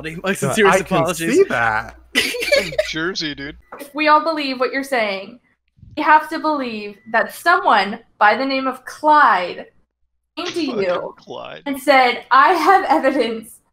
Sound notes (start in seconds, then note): 0.2 laughs